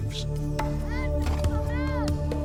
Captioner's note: boy shouting